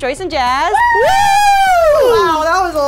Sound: both screaming

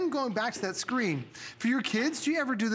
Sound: counting

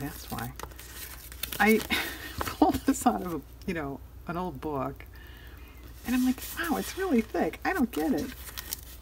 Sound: laughs

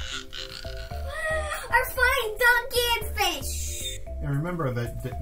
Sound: vocalizes swooping noise

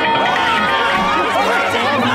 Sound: screaming

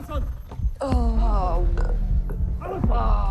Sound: burps

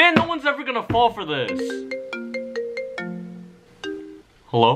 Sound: phone rings

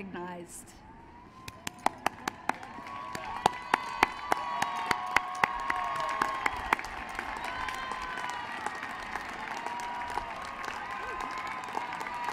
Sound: applause

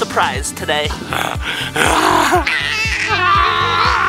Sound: screaming

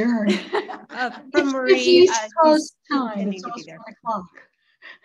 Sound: board members chattering

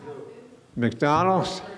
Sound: murmuring

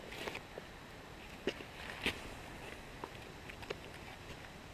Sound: stoking coals

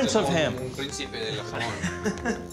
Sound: translating to Spanish; laughs

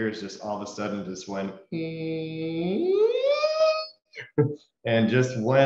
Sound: imitates high-pitched noise

